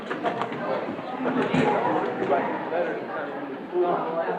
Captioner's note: students talking